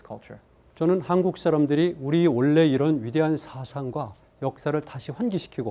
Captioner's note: speaking in Korean